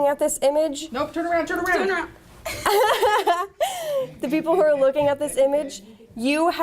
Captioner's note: laughter